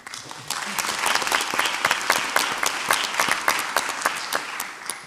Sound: audience applauds

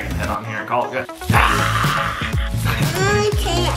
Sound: roars

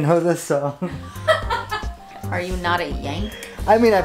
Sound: laughs

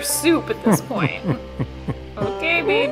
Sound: laughs

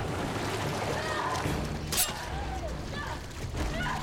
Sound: screaming

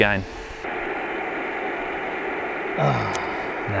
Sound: audible radio static; sighs

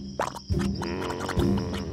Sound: quicksand bubbles

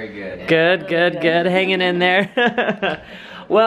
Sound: laughing

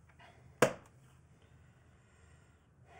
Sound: snaps

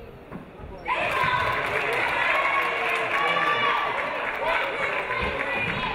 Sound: audience applauding

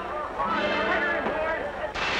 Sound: breaking glass

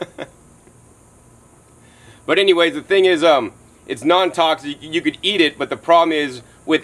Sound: laughs

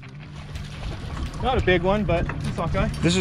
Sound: fish splashing

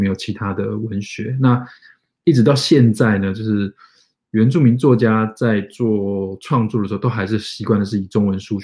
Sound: speaks mandarin

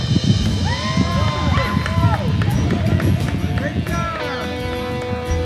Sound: group applauding

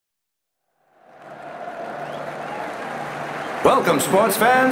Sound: crowd cheering

